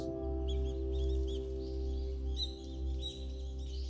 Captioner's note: birds chirping